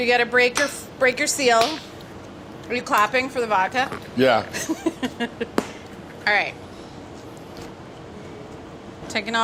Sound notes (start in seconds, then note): 4.6 laughs